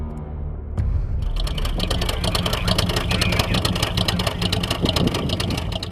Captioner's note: sound of 6-cylinder engine exhaust at idle speed